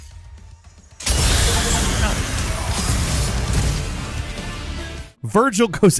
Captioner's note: explosion booms; blade slashing; upbeat music